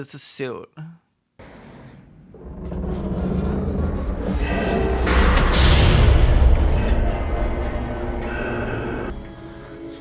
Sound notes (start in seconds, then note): 2.4 elevator creaking, clanging